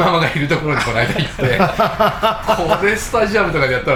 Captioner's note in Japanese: 笑い